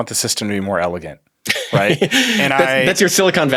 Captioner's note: laughs